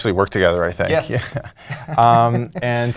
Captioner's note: laugh